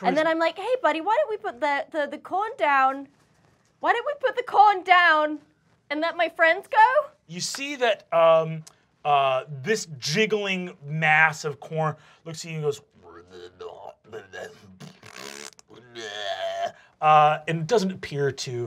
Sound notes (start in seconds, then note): 14.0 farts; 14.0 gurgling